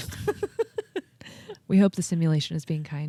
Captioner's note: laughing